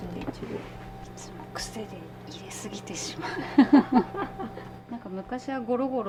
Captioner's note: laughs